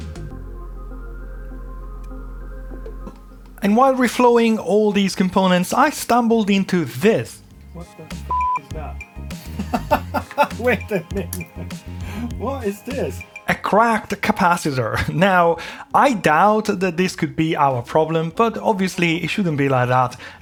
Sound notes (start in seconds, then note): 0.0 beeping; 8.2 beeping; 9.4 laughing